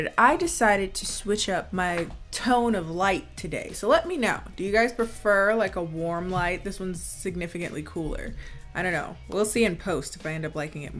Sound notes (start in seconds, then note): none